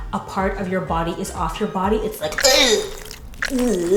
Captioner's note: gagging